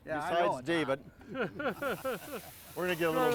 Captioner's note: all laughing